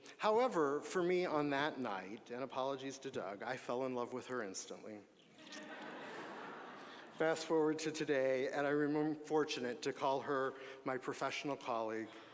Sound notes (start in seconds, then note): 5.4 audience laughing